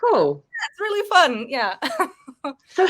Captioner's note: woman chuckling